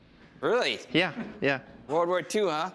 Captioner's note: none